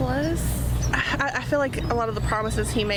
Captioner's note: laughter